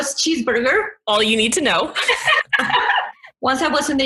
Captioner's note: both laugh